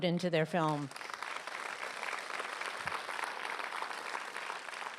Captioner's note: applause